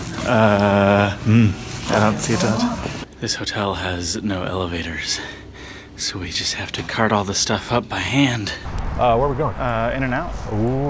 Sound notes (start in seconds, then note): 3.7 out of breath